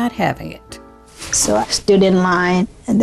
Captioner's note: soundbite of archived recording